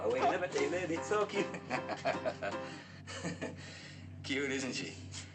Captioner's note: Ned chuckling